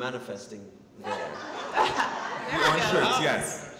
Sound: audience laughing

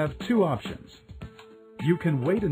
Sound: pause

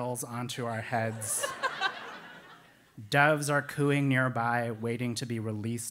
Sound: laugh

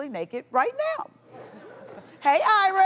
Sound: audience laughing

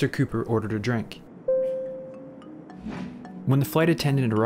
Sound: flight attendant ding

